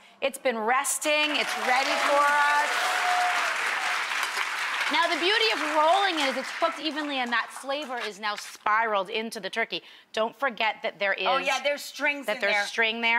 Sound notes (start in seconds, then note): 2.9 audience applauds